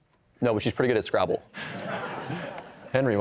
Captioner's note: laughter